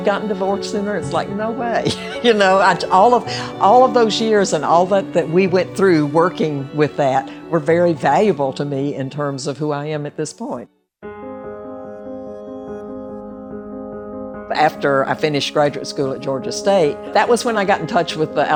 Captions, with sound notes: you'd gotten divorced sooner? It's like no way. (laughs) You know? All of those years and all that we went through working with that were very valuable to me in terms of who I am at this point. (soft music) After I finished graduate school at Georgia State, that was when I got in touch